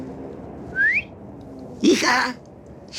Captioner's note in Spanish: Silbido